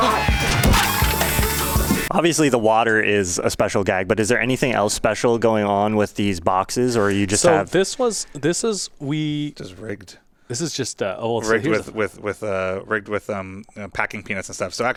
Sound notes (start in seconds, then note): 0.8 liquid spraying